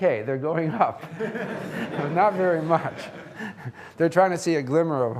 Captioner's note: audience laughing